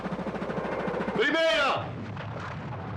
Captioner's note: jet Passing Overhead